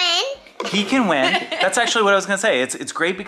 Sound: laughing

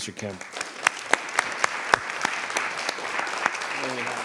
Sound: applause

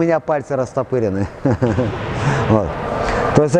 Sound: laughs

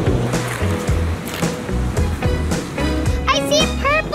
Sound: waves crashing

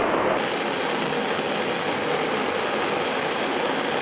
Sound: blowtorch firing

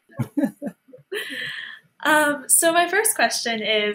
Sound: chuckles happily

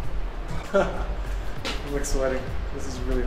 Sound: laughs

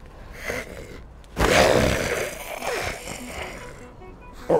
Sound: growling

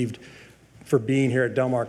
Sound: none

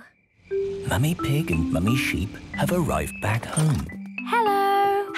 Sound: whispering

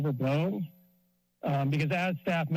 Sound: pause

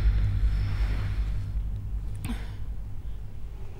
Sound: Iris sighs

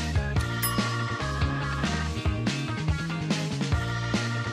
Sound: alarm rings

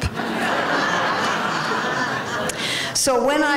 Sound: laughter

